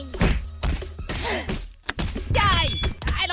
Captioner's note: gasp